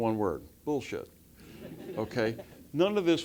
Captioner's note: laugh